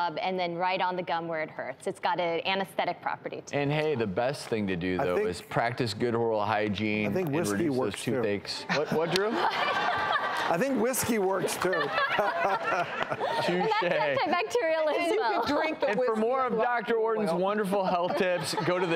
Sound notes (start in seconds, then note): 8.7 laughing